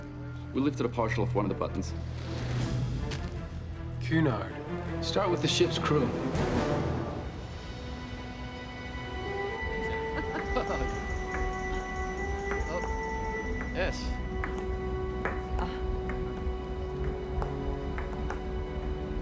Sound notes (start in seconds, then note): 9.8 laughter